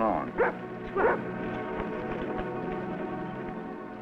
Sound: dog barks

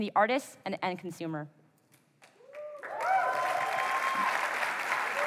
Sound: applause

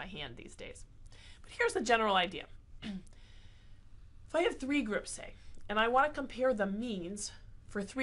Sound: cough

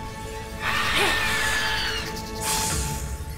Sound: screeching

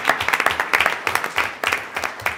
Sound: applause

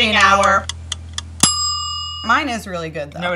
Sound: timer ticks and dings

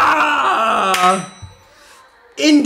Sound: claps

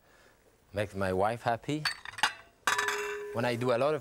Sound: ceramic dishes clanging

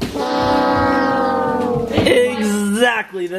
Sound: failure sound effect

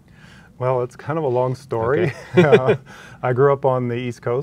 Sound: laughs

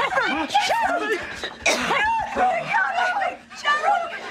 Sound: commotion and shouting continues

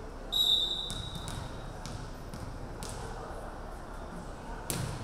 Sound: referee whistling

